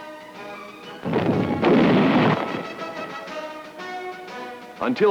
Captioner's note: cannon Shots